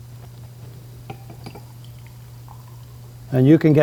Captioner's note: liquid trickling